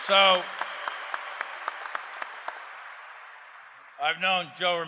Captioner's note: applause